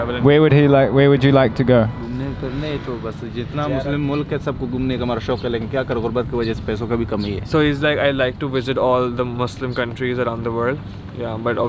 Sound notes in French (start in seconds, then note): 2.2 Langue locale